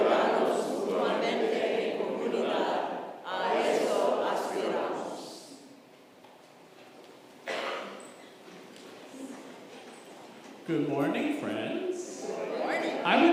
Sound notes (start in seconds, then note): 8.1 congregation rustling